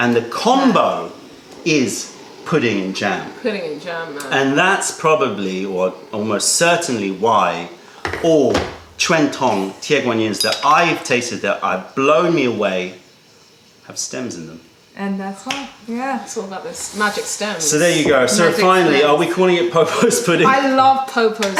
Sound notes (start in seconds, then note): 19.8 laughter